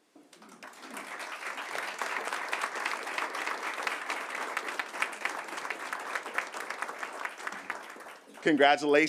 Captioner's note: applause